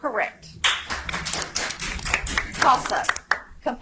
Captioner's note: audience applauds